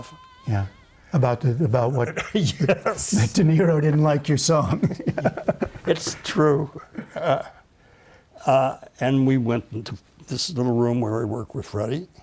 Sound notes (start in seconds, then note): 2.1 laughter